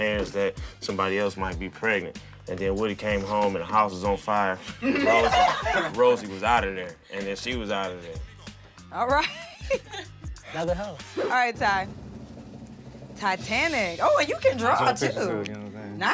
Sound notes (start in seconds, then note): 4.6 laughter; 9.0 laughing